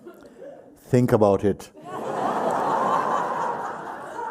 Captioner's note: laughter